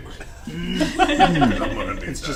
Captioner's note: all laugh